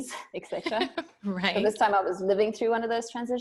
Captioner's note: laughing